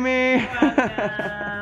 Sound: laughs

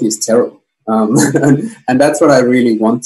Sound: laughs

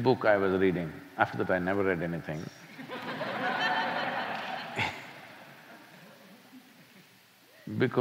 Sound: laughter

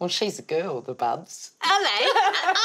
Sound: laughing

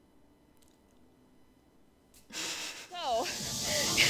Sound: silence; breath of disbelief

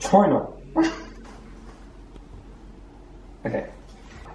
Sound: laughing

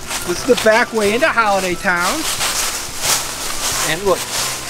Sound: footsteps pattering

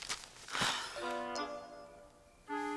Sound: Jess exhales

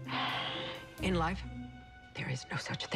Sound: sighs

